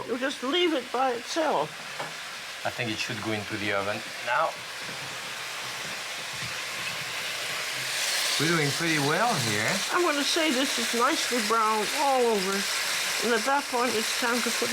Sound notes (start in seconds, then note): 5.1 sizzling